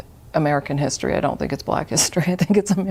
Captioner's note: chuckles